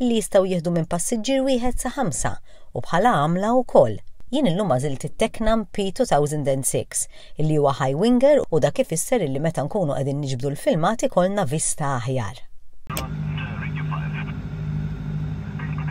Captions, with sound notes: They may take up from one to five passengers. Today I chose the Tecnam P2006. It is a high winger. Meaning that while we are filming, we'll give you a better view. [radio voice]